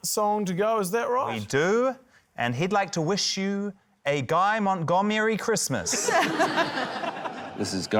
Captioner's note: laughter